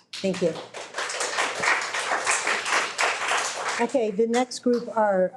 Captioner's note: audience applauding